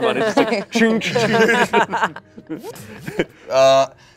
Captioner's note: everyone laughs